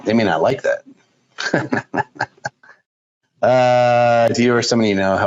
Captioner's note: chuckles